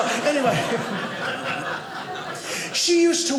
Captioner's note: audience laughing